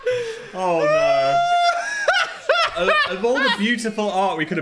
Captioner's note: Dan laughing